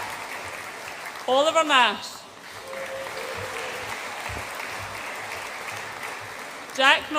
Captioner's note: audience applauds and cheers